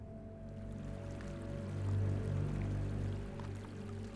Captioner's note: stream running